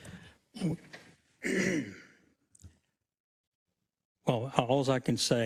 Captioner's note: cough